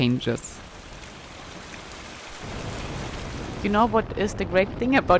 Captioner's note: rain pouring